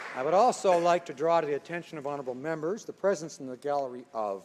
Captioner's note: applause